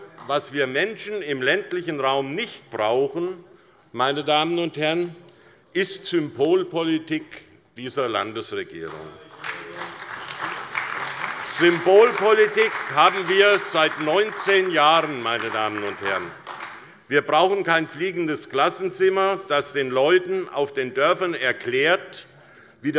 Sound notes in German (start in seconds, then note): 9.5 Beifall bei der SPD